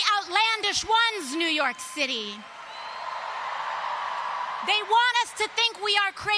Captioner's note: cheers